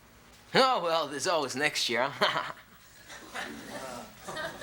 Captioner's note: laughs